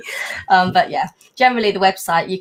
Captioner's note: laughing